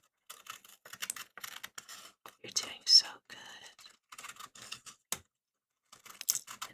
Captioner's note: surgery noises